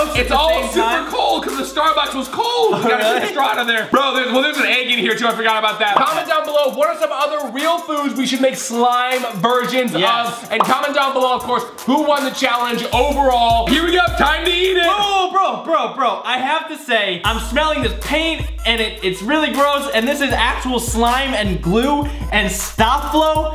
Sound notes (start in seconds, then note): 15.0 shouts